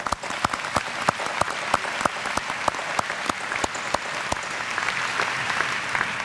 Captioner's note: applause